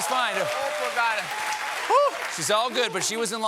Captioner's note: applause